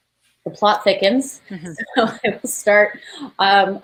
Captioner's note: laughs